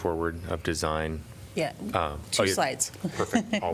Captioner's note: laughter